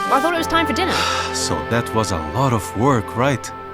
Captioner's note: father sighs